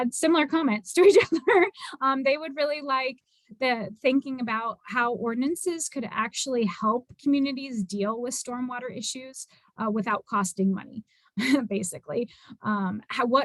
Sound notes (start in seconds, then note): 1.0 laughter